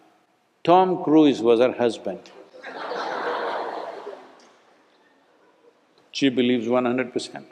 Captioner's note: laughter